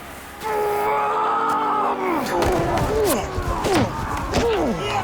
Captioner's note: Leopold Roars